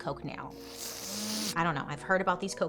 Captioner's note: person sniffing sound effect